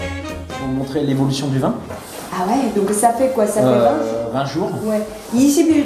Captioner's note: communicating in French